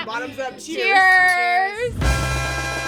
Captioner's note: all cheers; mariachi music